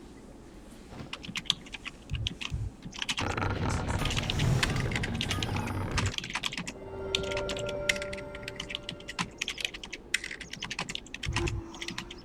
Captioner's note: typing sounds